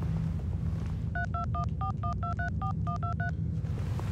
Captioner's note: dial beeping